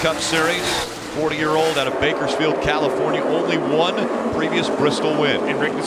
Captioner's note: engine revving